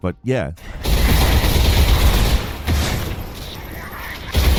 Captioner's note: gun firing